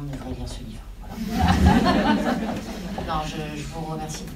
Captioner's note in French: rires